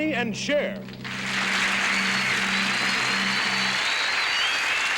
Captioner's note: audience applauding and cheering